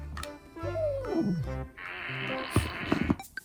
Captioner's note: farting sounds